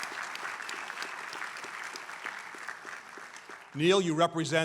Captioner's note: applause